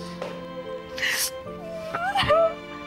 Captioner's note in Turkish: Ayşe ağlıyor